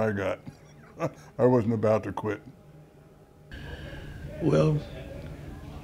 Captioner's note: laughs